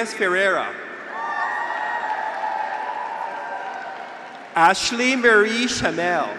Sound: graduates cheer; audience applauds

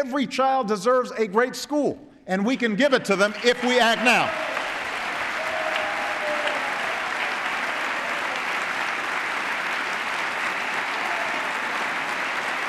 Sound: applause

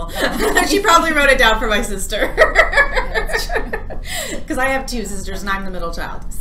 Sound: laughs

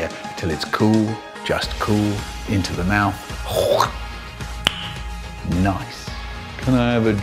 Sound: smack

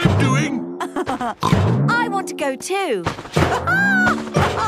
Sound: snorts; laughs; laughs

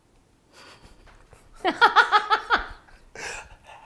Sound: laughing

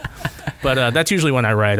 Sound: laughter

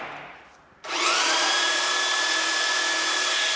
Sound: electrical whirring

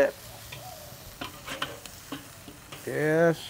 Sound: meat sizzling

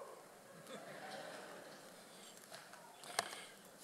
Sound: audience laughs

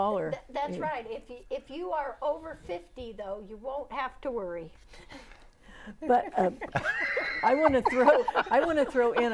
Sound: laughing

